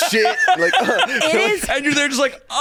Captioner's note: laughing